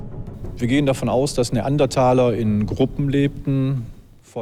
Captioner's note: German spoken audio